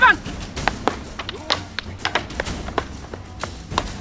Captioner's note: sticks clunking